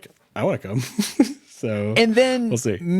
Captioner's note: chuckles